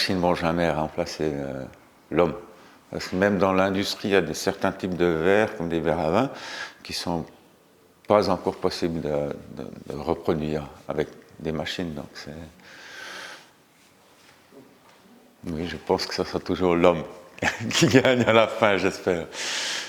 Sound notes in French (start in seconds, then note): 17.4 rires